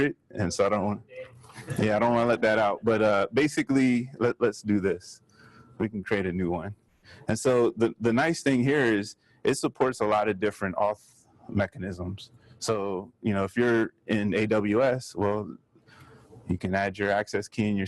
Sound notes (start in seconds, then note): 1.5 laughs